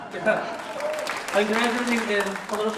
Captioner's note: applause